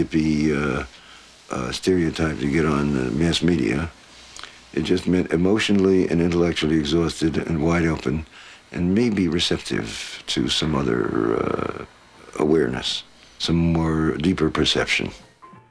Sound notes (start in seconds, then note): none